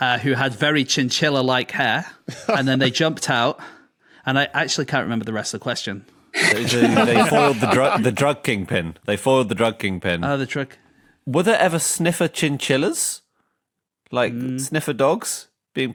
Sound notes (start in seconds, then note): 2.2 chuckles; 6.4 group laughing